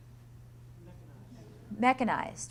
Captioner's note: voiceover